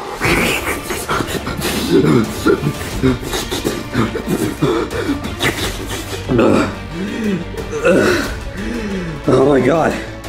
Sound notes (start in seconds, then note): 0.0 Mario inhales and exhales; 0.0 dramatic music; 0.0 Mario slurping; 7.0 Mario groaning